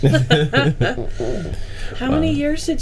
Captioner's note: group laughing